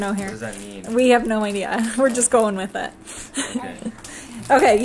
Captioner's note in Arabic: ضحكات خافتة